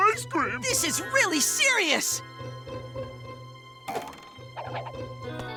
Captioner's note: boing